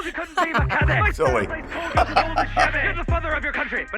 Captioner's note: laughs